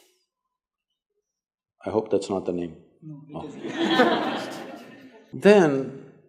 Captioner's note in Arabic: ضحِك